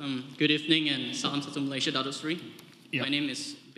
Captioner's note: speaks foreign language